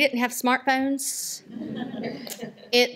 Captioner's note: laughter